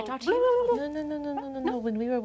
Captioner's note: vocalized lip trills